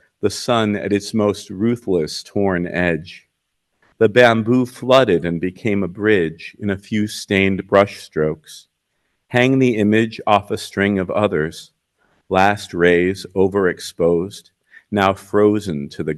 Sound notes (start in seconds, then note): none